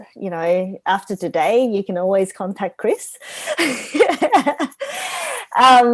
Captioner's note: laughs